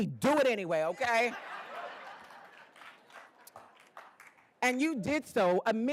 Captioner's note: attendees laughing